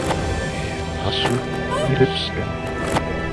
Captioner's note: slow motion clopping and whinnying